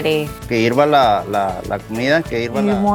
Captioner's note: speaks Spanish